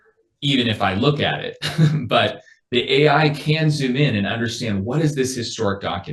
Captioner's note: laughs